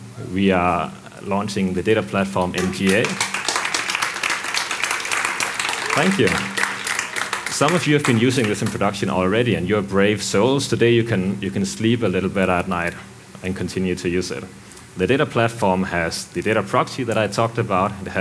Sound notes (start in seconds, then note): 2.4 participants applauding